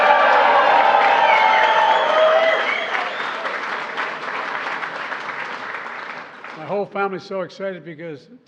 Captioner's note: applause